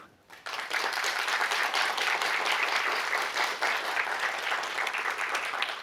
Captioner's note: audience applauds